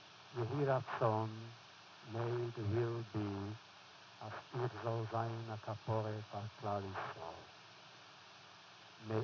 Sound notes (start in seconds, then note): 3.8 foreign language